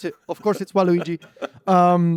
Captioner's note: laughs